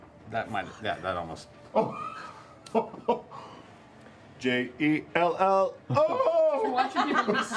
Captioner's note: laughs